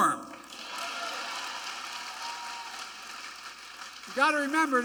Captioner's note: applause